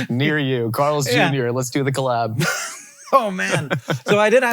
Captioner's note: laughs